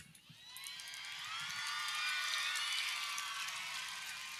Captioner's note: audience cheering